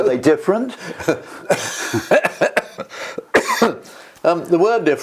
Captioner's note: laugh; cough